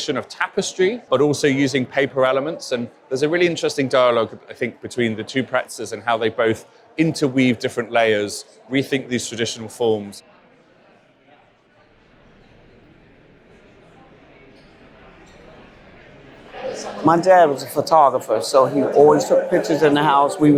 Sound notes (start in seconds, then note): 10.1 crowd noise